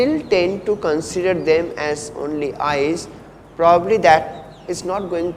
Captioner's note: distortions